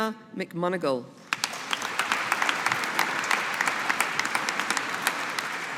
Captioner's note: audience applauding